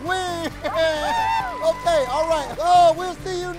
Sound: audience applauds

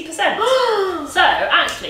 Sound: gasps

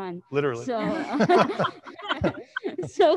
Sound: panelist laughing

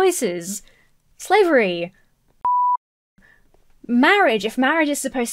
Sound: beep

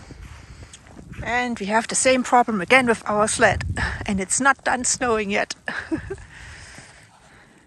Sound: laughs

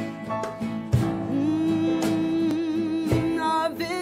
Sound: humming

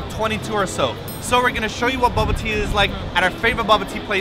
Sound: ding

